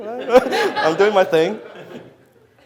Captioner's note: audience laughs